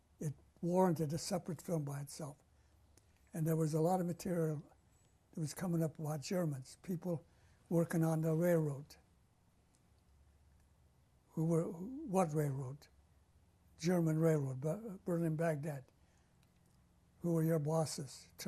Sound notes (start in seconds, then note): 8.7 pauses for 3 seconds